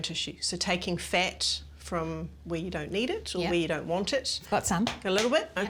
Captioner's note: slaps